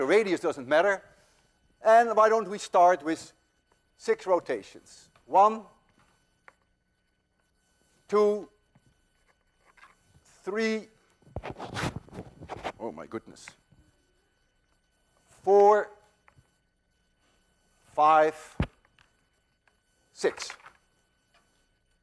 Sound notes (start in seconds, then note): 11.2 loud rustling against microphone